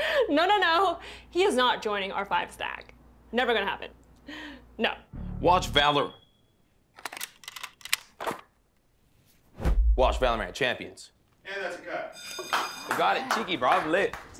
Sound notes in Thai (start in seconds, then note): 5.8 เสียงเครื่องตรวจจับควัน; 12.1 เสียงระฆังดัง